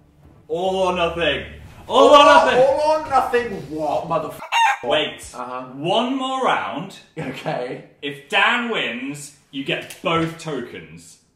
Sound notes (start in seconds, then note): 4.4 chicken clucking